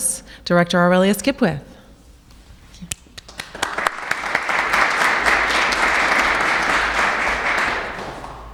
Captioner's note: applauses